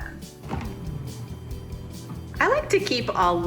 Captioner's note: freezer hums